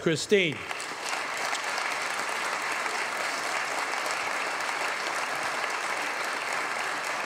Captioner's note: applause